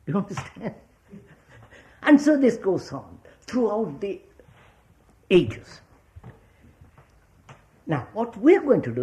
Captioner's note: laughs